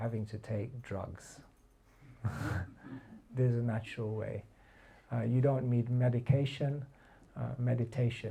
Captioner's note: laughter